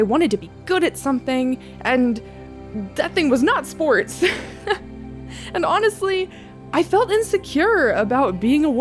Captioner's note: laughter